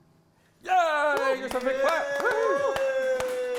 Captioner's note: applause and cheering